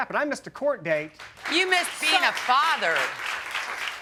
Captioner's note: applause